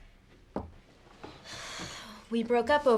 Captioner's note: sighs